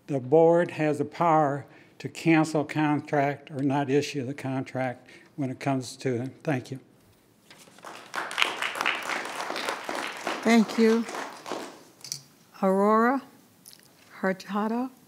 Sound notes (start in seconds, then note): 7.6 attendees applauding